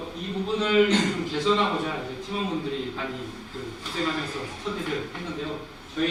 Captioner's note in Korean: 목을 가다듬음